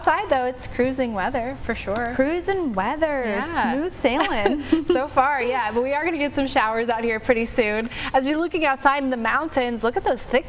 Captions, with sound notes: LIKE IT. [LAUGHTER] MAYBE I WILL ND AFI NICE THREE DAY CRUISE. OUTSIDE, IT IS CRUISING WEATHER FOR SURE.